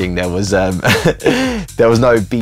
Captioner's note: laughter